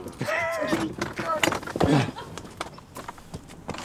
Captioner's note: laughing